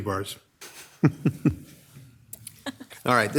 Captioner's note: laughing